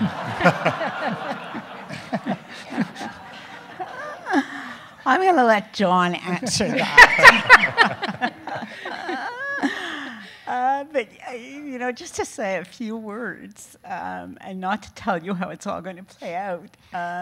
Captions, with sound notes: (audience laughing) - I'm going to let John answer that. (audience laughing) But just to say a few words and not to tell you how it's all gonna play out